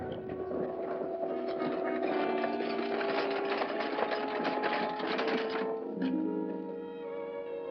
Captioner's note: carriage rattling & hooves trotting; romantic music